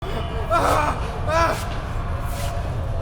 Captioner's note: groaning mummies